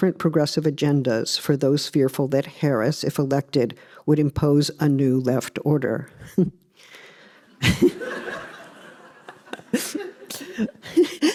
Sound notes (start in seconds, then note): 7.5 laughs; 7.5 laughter